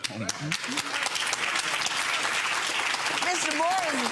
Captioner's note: audience applauding